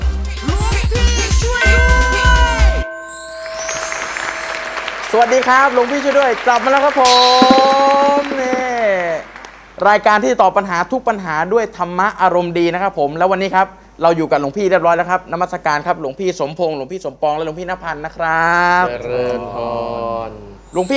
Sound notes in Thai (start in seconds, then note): 1.5 เสียงระฆัง; 3.4 เสียงปรบมือ